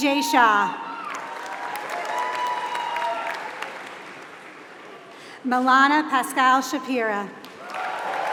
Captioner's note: applause; applause